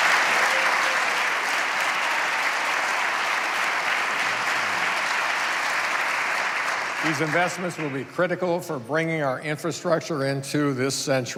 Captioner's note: applause